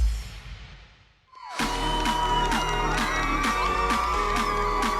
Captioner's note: cheering